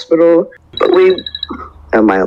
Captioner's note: phone Rings